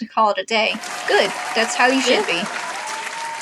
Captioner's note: applause